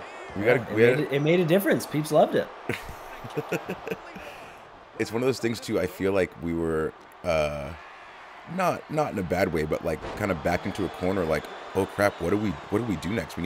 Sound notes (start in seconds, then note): 2.6 laugh